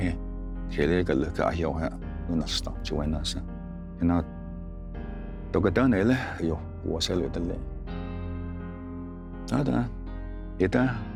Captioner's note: tells story in Cherokee language